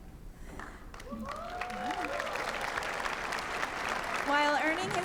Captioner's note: applause